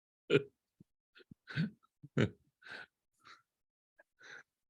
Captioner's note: chuckles